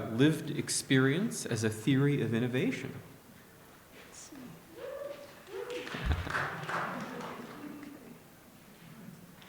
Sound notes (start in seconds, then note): 5.4 light applause